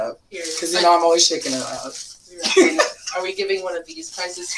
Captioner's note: laughs